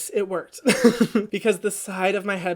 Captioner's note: laughs